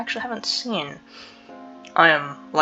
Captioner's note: inhales